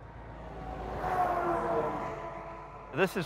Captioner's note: truck whooshing